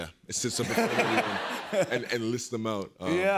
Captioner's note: laughter